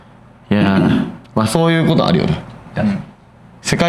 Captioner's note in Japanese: 咳払い